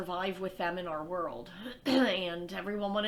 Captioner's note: clears throat